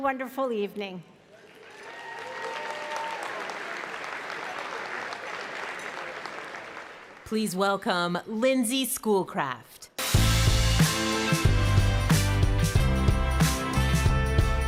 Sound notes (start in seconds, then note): 4.7 cheering and Applause